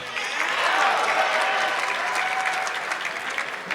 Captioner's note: audience clapping